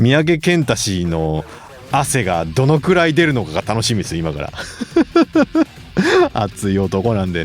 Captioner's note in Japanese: 笑い